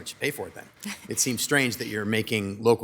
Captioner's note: laughs